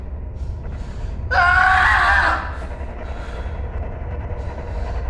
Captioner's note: screams